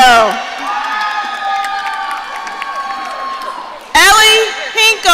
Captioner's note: audience cheering